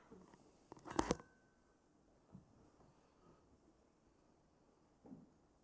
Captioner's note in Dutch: stilte